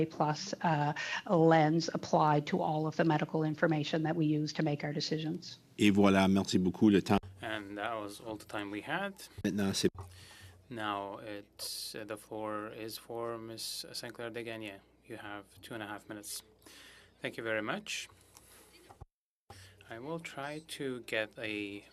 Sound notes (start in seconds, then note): 10.3 speaking French